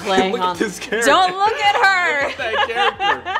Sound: laughs

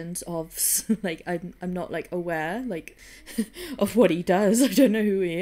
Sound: laughs

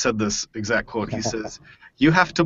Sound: laughs

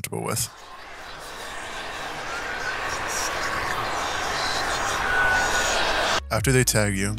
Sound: ungodly Noise Builds

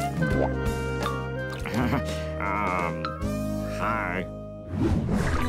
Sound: chuckles

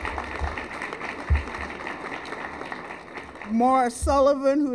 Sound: applause

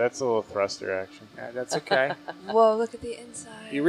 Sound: chuckling

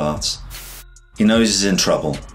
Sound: air whooshes

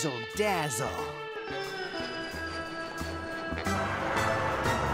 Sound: plane engine roaring

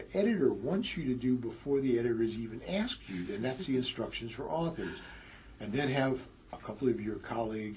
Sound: laugh

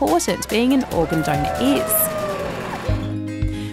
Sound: cheering

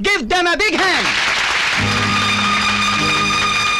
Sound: crowd Applauding

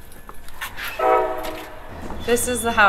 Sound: train horn blaring

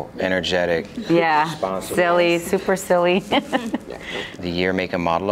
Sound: laughs

